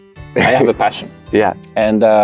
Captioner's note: laughs